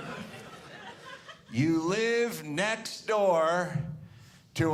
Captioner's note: audience laughing